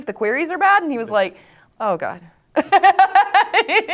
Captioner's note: laughs